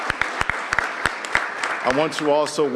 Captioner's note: applause